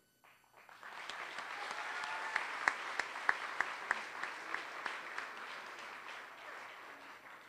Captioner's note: applause